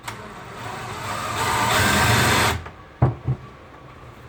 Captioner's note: drill buzzing